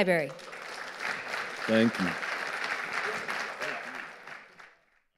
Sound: audience applauding

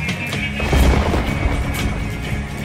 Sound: thunder crash

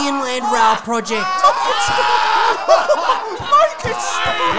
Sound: group Laughter

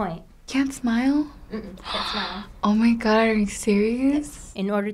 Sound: gasps

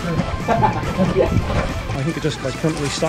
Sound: manic laughter

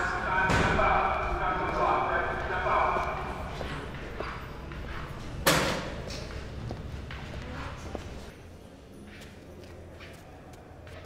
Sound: flute playing; loud metal door closing

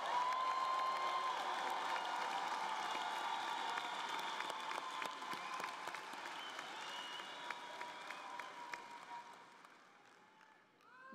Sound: cheers and applause

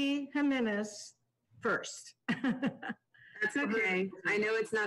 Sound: laughs

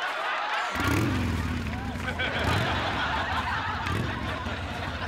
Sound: motorcycle engine revving

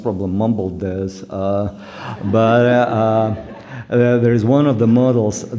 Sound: laughter

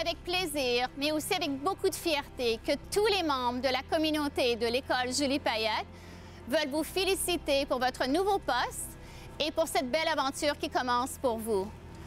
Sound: speaking French

